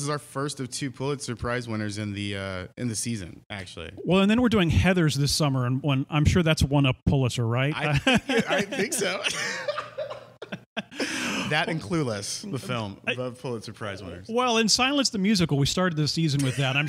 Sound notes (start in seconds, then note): 7.8 laughter; 10.4 laughs